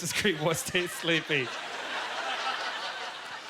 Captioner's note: audience laughter